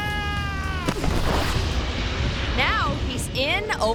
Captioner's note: screams; thuds